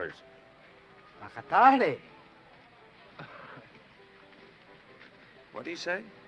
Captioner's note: speaking foreign language